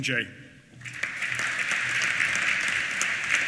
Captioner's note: applause